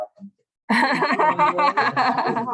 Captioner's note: laughter